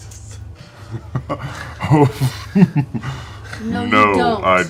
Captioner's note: laughs